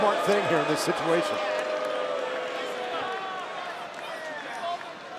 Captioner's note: crowd boos and shouts